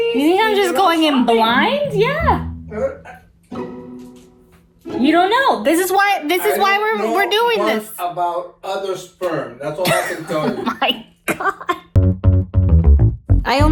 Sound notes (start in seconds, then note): 9.8 laughing; 11.9 low bass music